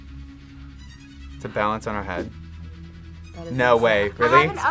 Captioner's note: gasps